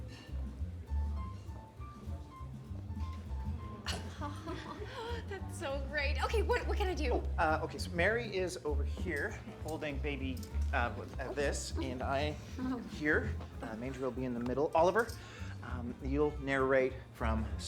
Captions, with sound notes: [SNICKERS] AW! THAT'S SO GREAT! OKAY, WHAT? WHAT CAN I DO? OKAY, SO MARY IS OVER HERE, HOLDING BABY... UH, WELL, THIS, AND I AM HERE. UH, MANGER'LL BE IN THE MIDDLE. OLIVER... YOU'LL NARRATE FROM STABLE RIGHT.